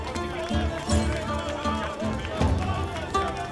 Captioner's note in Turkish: Alkış sesleri